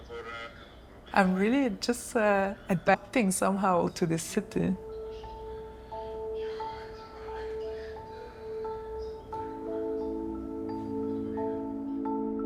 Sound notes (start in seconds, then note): 0.0 speaking German